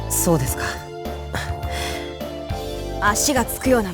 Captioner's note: sigh